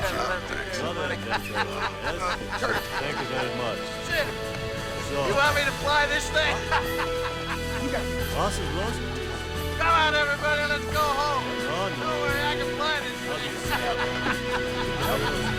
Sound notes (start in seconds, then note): 0.1 overlapping chattering; 7.7 laughs; 8.3 overlapping chattering; 14.8 laughs; 15.4 overlapping chattering